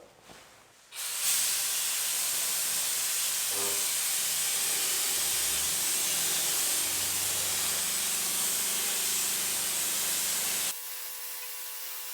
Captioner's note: working sound